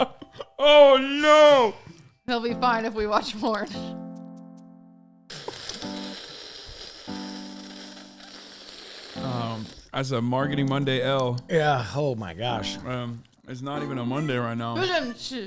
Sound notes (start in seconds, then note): 2.1 wheezes, guffaws; 9.5 loudly sips from can